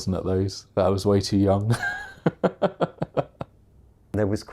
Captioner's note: laughs